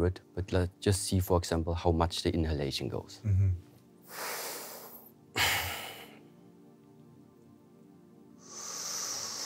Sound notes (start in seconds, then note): 3.8 inhales; 4.0 exhales; 8.4 inhales